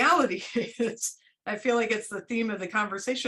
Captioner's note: laughter